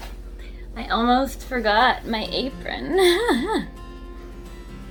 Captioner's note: laughs